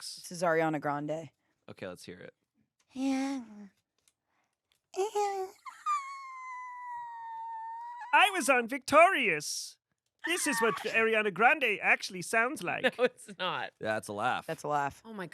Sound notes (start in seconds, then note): 2.9 squeals